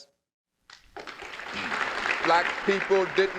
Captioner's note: applause